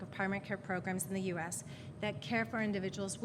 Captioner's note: none